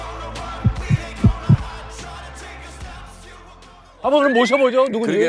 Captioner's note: heart pounding